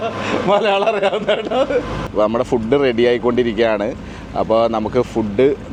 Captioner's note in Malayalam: പൊട്ടിച്ചിരി